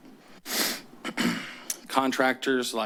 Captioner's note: clears throat